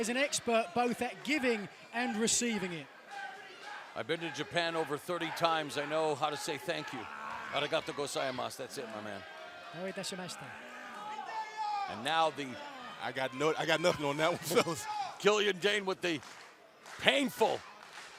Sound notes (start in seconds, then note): 8.6 speaking japanese; 11.6 speaking japanese